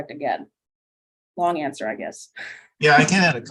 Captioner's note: chuckling